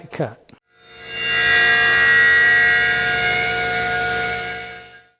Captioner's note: machine humming